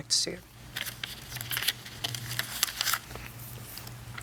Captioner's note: papers rustling